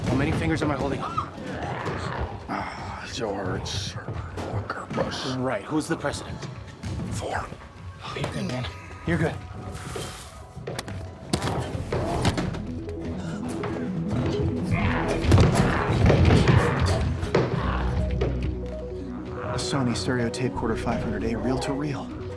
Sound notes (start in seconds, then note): 11.3 bright music; 15.1 door rattling